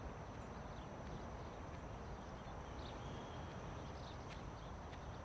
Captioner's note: birds chirping